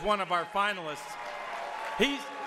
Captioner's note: audience cheers